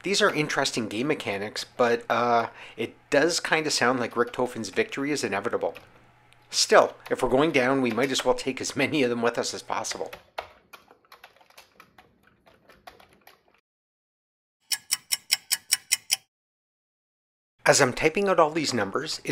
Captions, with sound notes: These are interesting game mechanics — but, uh… it does kind of sound like Richthofen’s victory is inevitable. Still, if we’re going down, we might as well take as many of them with us as possible! [sound of a ticking clock] As I’m typing out all these numbers,